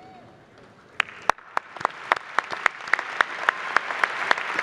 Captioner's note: applause